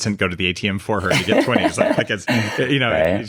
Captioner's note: laughs